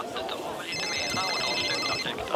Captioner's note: phone signal